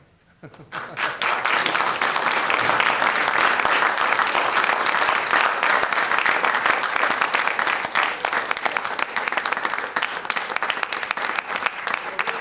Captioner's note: applause